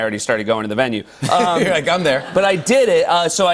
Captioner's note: laughter